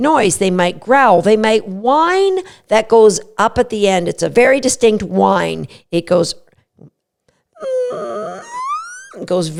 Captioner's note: whining sound